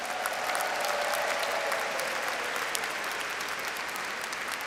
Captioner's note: audience applauds